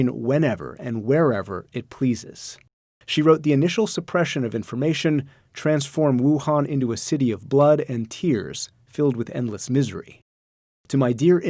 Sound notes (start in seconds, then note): none